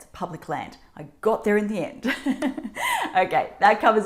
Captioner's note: laughs